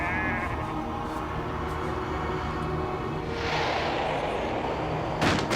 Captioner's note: goat bleats